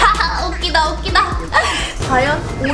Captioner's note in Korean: 들숨